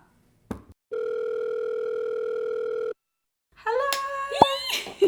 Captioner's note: phone rings